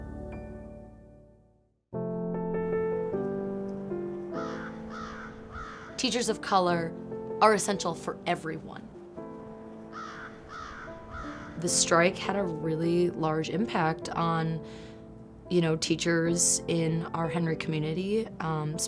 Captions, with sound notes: (lighthearted music fades) (gentle music) (crow caws) - Teachers of color are essential for everyone. (crow caws) The strike had a really large impact on, you know, teachers in our Henry community,